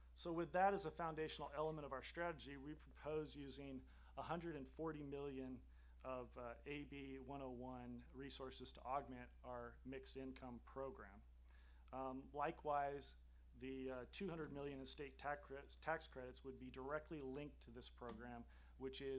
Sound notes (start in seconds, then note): none